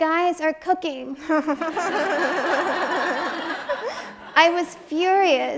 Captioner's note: audience laughs